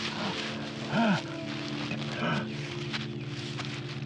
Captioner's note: Dave gasping